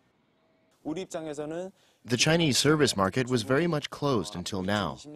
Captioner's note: Korean